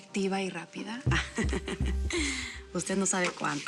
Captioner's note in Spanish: risas